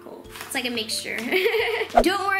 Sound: laughs

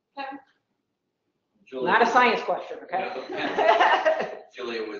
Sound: laugh

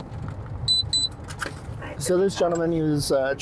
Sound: car beeps

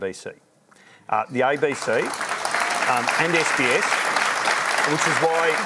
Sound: applause

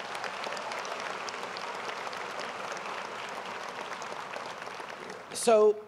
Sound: applause & cheers

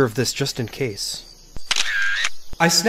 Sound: camera shutter closes

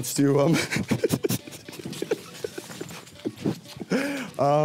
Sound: laughing and kissing

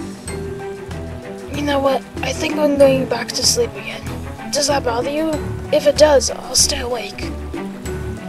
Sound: yawns

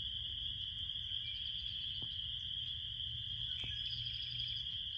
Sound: birds singing

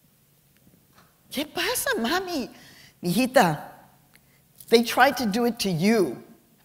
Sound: speaking spanish

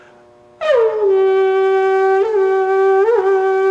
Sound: whooping into tube

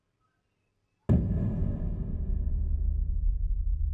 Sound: dramatic sound

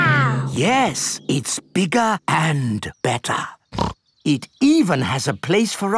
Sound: snorts

